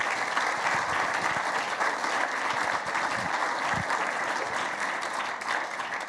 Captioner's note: audience applauding